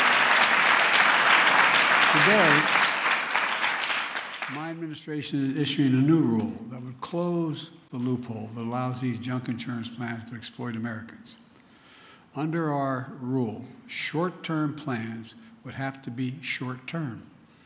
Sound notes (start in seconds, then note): 0.0 applause